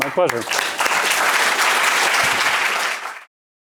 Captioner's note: applause